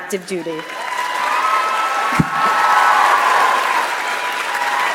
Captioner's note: audience applauds